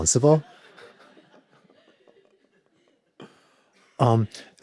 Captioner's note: audience laughing